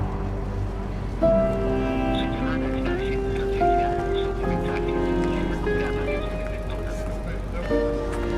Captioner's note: voicemail message playing